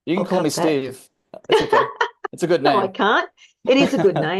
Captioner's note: laughs